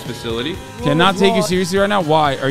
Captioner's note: chatter